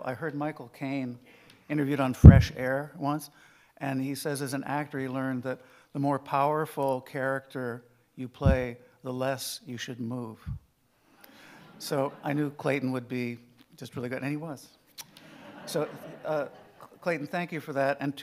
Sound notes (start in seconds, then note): 11.6 audience laughing; 15.1 audience laughing